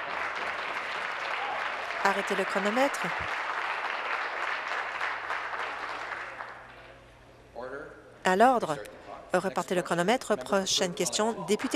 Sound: applause

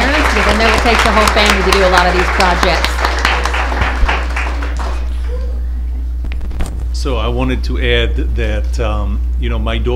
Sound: applause

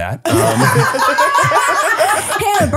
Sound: laughing

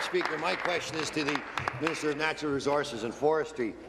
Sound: applause

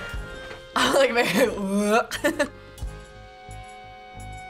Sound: laughs

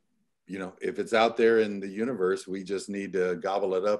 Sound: none

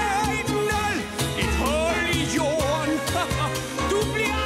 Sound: haha

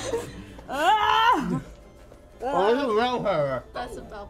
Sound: mumbling; screaming in frustration

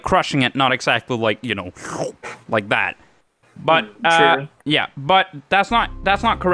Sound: sucking noise

